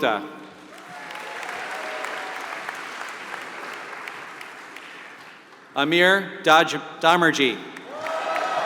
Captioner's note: applause; applause